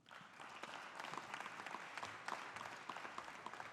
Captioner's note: audience applauding